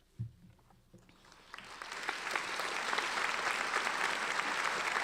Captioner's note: audience applauding